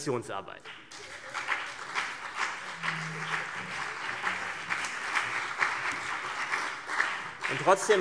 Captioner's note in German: Beifall CDU und BÜNDNIS 90/DIE GRÜNEN